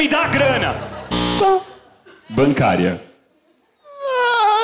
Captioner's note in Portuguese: campainha